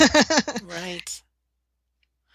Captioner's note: laughter